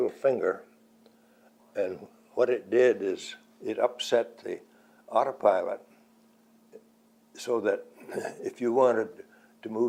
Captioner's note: clears throat